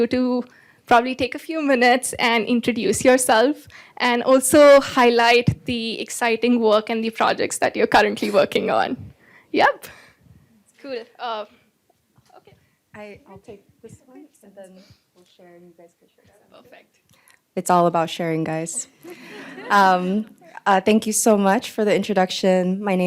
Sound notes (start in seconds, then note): 19.0 laughter